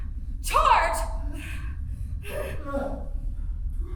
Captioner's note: none